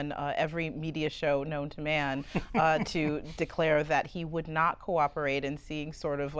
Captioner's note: laughter